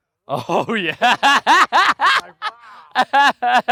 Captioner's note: laughs